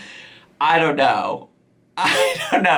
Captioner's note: laughing